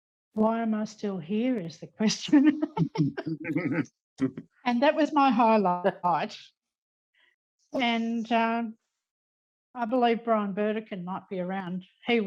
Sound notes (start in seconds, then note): 2.2 laughing